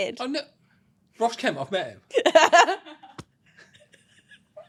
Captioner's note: laughing